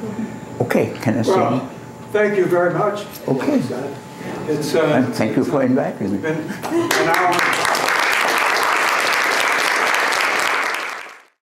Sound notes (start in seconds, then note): 6.7 applause